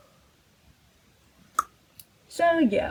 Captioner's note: mouth click